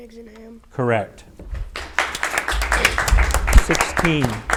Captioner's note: audience applauds